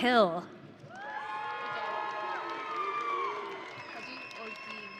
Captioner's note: audience cheering